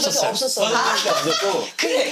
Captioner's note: hahahaha